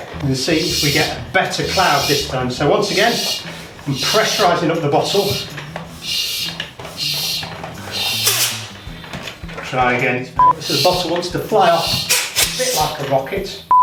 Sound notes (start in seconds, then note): 5.4 air pumping; 8.2 air escaping